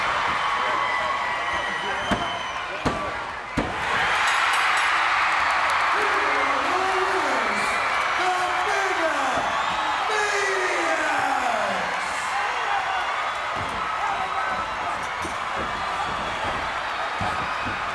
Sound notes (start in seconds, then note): 3.5 hand thudding; 4.1 bell rings; 4.7 crowd cheers